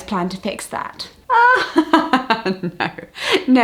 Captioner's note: laughter